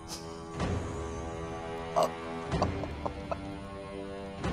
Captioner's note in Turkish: Gülme sesleri